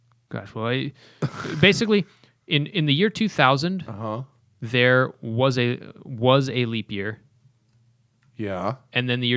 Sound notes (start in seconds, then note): 1.2 laughter